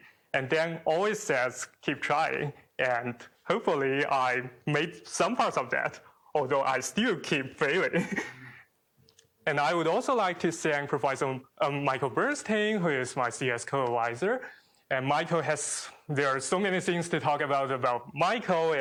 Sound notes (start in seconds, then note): 7.8 chuckles